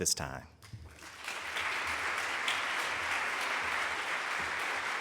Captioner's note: audience applauding